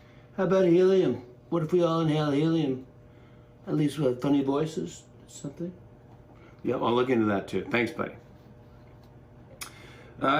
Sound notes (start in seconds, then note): none